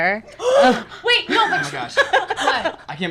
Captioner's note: gasps